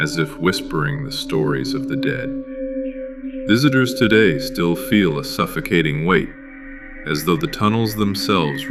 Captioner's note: whispering